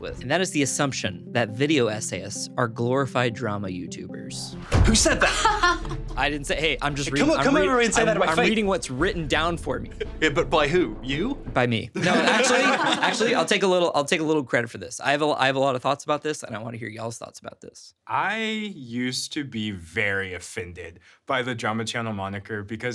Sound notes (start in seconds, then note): 5.0 laughing; 5.3 palms thumping; 12.0 everyone laughing